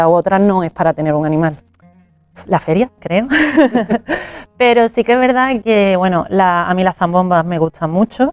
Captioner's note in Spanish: risas